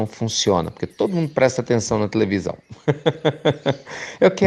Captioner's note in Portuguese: Risos